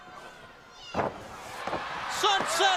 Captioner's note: crowd cheering